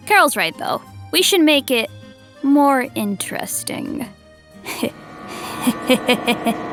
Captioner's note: chuckling darkly